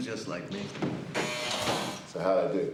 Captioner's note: alarm buzzes